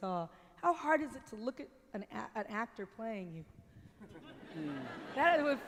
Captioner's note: light laughter